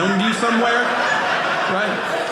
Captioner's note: audience laughing